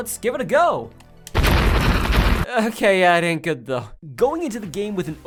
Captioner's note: stock explosion sounds